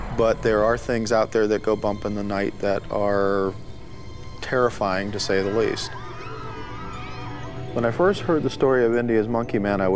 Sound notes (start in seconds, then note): 6.3 people screaming